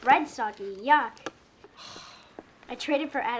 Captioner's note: sighs